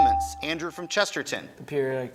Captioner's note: buzzer chimes